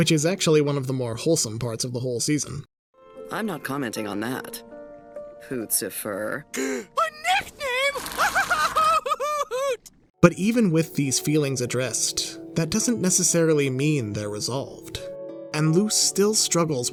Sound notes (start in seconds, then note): 6.6 gasps; 8.1 cackling